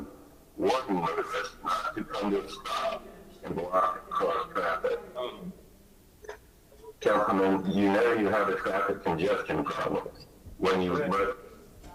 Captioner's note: ~distortion~